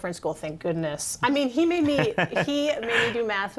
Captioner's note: laughter